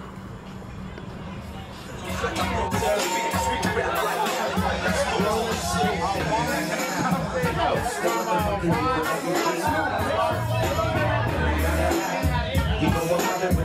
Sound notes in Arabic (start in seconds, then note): 2.1 ثرثرة الحشد